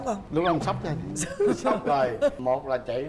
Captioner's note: laughing